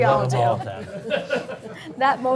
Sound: laughing

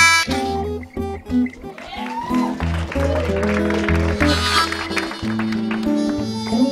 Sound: applause

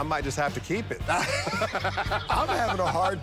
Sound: laughter

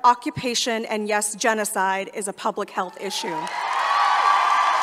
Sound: applause

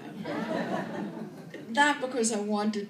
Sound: laughter

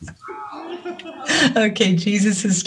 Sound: luaghs

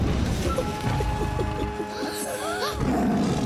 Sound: Babu giggles; gasps; roars

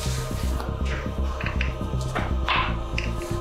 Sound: none

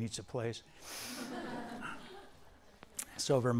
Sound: students laughing

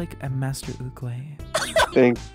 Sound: laughing

